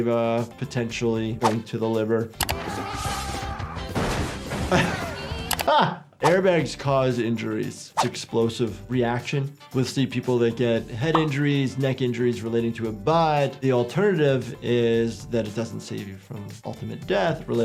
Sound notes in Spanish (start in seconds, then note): 2.5 Wolverine gritando; 5.6 doctor riendo